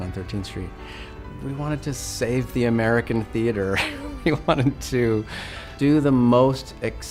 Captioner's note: laugh